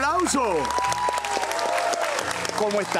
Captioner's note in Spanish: Aplausos